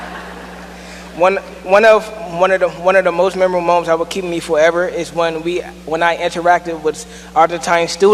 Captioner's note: laughter